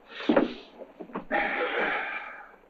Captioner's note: all gasp